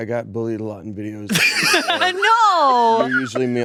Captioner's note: both laughing